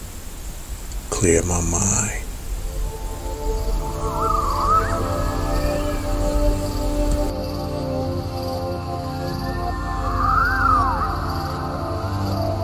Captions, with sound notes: Clear my mind. (soft music) (insects chirping)